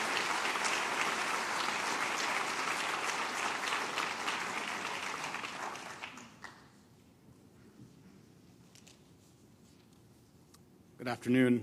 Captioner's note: applause